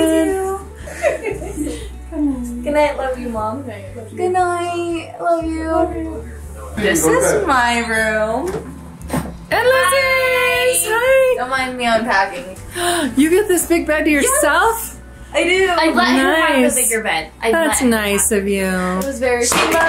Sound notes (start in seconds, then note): 0.8 laughs; 12.7 gasps